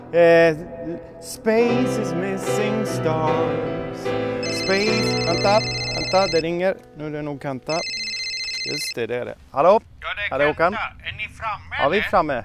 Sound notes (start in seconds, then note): 4.4 phone signal